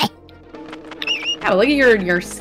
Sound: whine

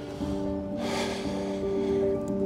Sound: sighs

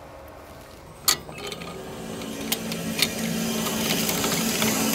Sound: motor rumbling

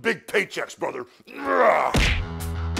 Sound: Hulk grunting; upbeat music

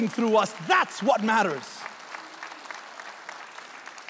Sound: applauding

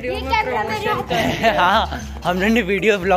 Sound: slight laugh

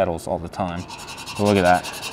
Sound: metal screeching

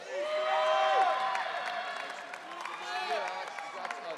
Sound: audience cheering

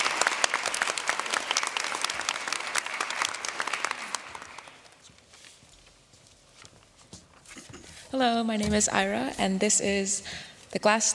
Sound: applause

